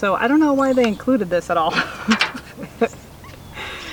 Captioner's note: laughing